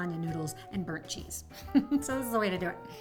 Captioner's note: chuckling